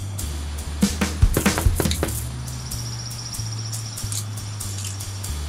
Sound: knocking on door

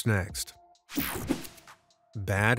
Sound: screen whooshing

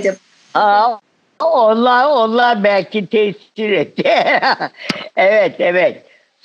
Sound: laughing

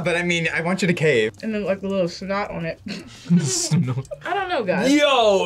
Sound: laughs

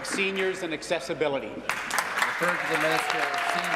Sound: applause

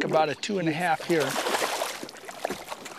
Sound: splash

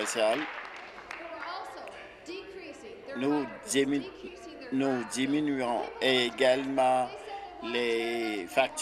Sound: applause

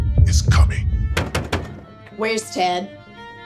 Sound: knocking

